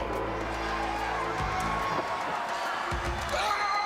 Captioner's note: crowd chatter; crowd cheering